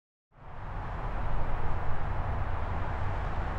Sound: cars moving

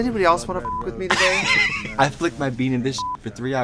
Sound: beep; laughing; beep

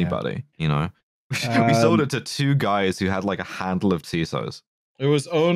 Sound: laughs

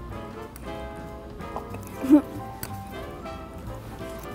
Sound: fork scraping plate

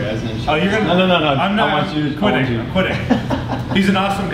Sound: laughing

